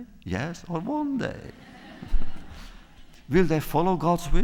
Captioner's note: laughter